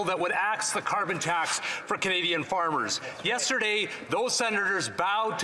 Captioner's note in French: voix de l'interprète